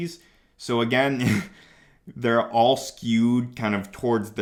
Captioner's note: chuckles